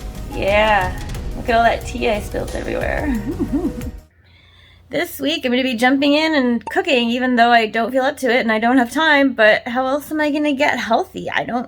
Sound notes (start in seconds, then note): 3.0 giggles